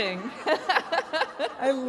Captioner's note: laughter